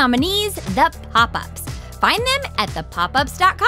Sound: none

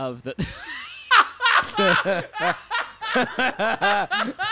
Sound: laughing

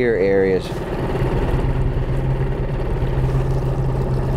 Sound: boat engine purring

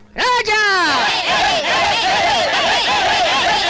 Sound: all Cheering

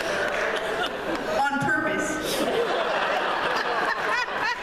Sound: laughter

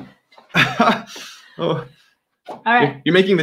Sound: chuckling

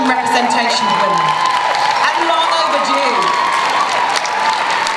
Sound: cheering, applause

